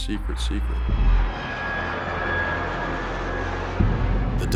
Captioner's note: jets soaring